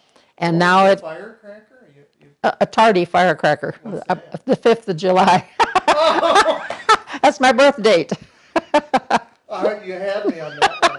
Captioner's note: laughter